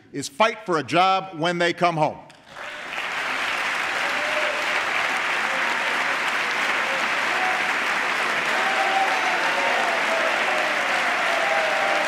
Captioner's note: applause